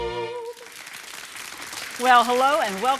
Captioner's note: audience clapping